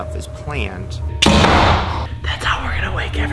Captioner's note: loud thud